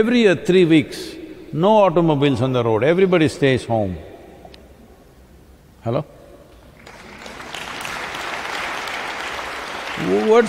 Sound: applause

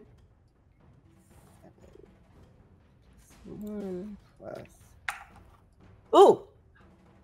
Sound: dice clatter

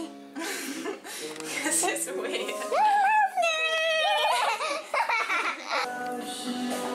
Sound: both laugh

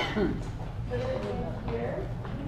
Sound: cough cough

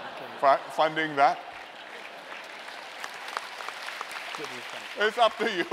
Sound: laughter and applause

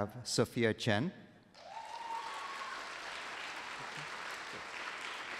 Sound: applause

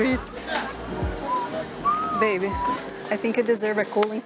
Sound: whistles

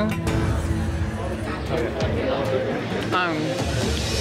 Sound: people chatting

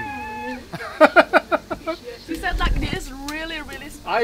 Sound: laughs

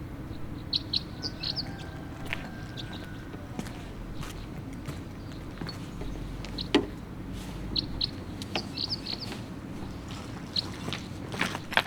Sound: birds chirping

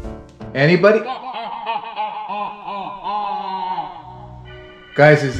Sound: evil laugh

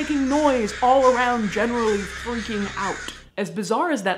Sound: crow calls intensify; maximum intensity crow calls

